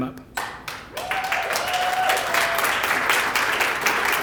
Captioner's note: applause